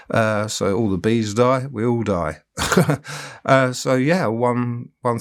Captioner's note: chuckling